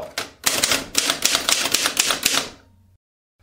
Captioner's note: typewriter sound